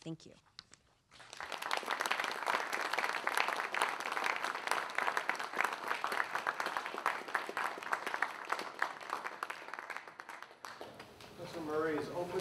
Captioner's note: applause